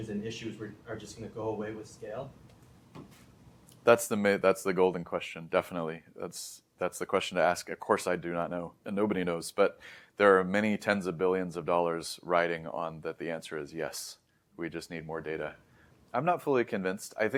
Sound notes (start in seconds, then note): 2.0 tapping noise; 2.8 thump of an object; 3.7 lips smack